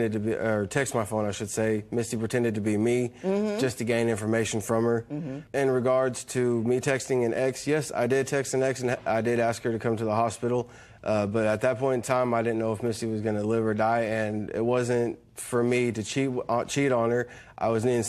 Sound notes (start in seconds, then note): none